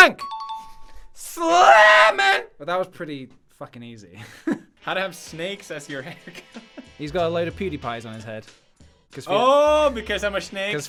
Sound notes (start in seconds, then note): 0.1 "CORRECT" sound fx; 3.7 laugh; 6.2 laughs